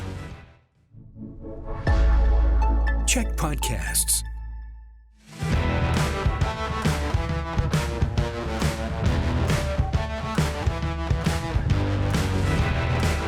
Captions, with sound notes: [announcer voice]: CHEK Podcasts.